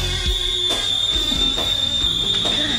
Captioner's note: stereo plays loudly; tea kettle whistles